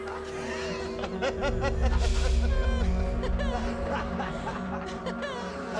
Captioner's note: students laughing